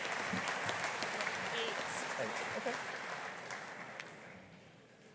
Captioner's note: audience applauding